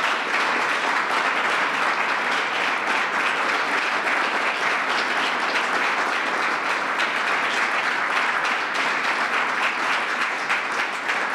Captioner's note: applause